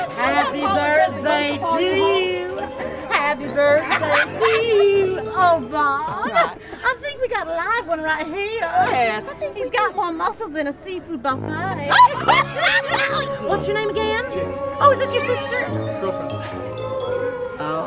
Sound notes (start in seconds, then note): 0.0 excited cackle; 11.9 laughter